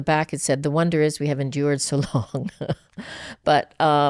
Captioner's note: laughs